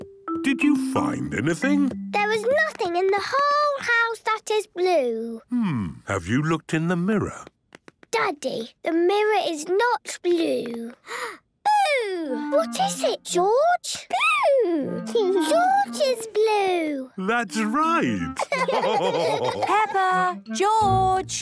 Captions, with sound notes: - Did you find anything? - There is nothing in the whole house that is blue! - Hmmm. Have you looked in the mirror? - Daddy, the mirror is not blue. - (gasps) Boo! - What is it, George? - Boo! - George is blue! - That's right! - Peppa! George!